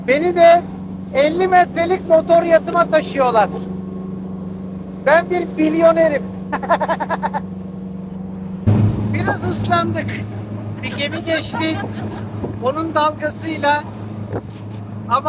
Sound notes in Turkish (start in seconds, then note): 6.5 kahkaha